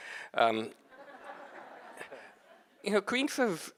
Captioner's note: audience laughing